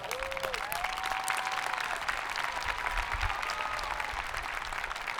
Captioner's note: audience applauding